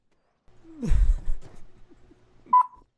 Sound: laughter

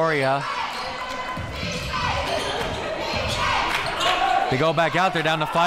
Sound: crowd

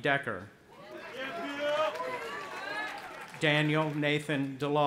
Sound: audience applauding

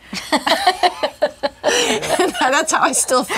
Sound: laughs

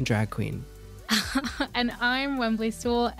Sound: laughs

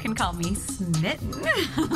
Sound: giggle

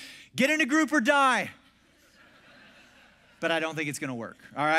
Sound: congregation laughs

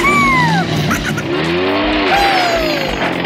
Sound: Gigglebot laughs

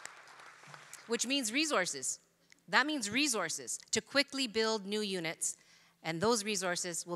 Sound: applause

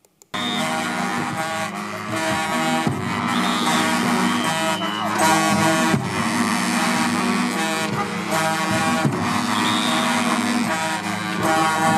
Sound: applause

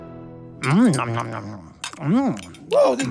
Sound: chewing

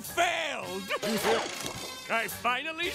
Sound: laughing

